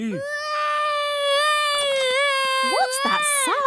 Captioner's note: baby wailing